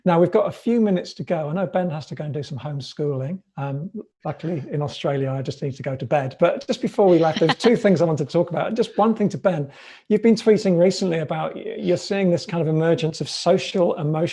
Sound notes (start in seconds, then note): 7.0 laughs